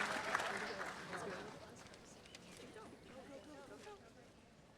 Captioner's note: attendees chattering